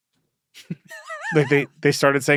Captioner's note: laughs